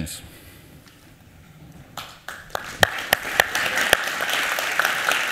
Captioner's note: applause